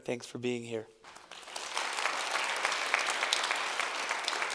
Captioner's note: applause